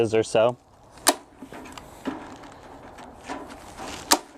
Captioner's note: clanking